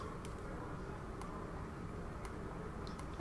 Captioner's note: L3 clicking